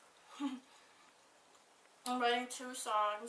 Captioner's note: laughs